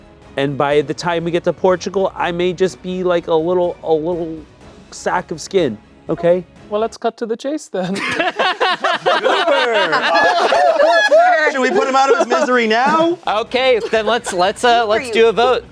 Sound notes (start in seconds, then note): 7.8 everyone laughing; 8.1 laughing